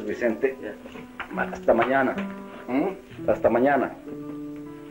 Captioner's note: Spanish spoken language